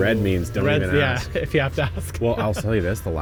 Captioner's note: laughs